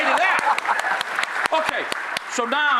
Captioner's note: audience clapping